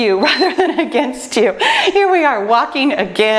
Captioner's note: timer beeps; laughs